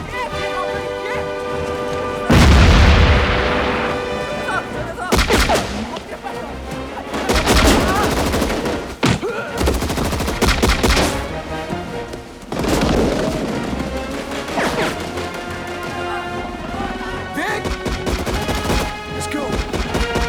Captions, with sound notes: [ Yelling In Korean ] [ Man Yelling In Korean ] [ Machine Gun Fire ] [ Grunts ] [ Machine Gun Fire ] VICK ? LET'S GO.